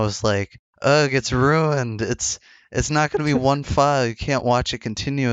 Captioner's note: laughs